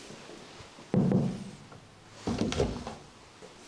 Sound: knocking

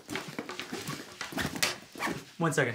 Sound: zipper zips

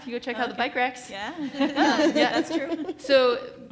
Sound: laughs

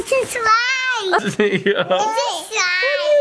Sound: murmurs

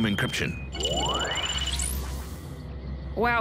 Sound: electronic whirring

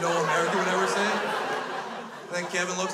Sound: crowd laughs

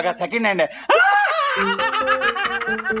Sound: laughing

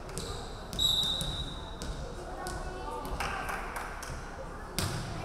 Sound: referee whistling

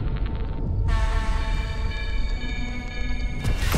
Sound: beeping

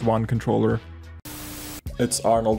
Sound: static

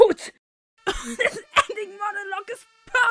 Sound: fire department siren

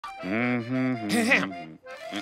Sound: humming, clearing throat

